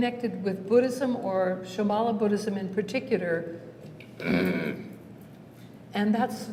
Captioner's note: negative grunt